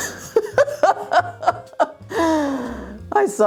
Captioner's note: laughs